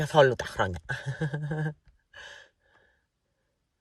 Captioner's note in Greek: γέλια